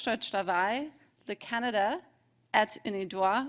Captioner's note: speaking French